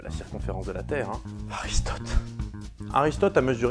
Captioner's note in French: soupir